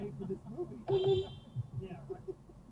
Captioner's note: beepbeep